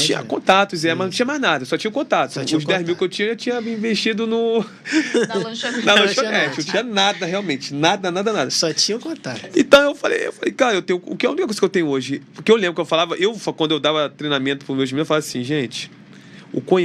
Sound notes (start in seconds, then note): 4.8 risadas